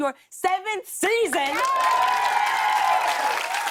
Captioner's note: cheers and applause